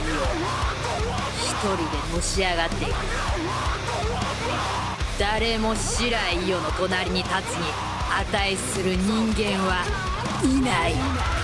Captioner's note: speaking in foreign language